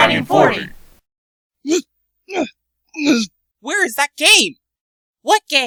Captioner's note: grunting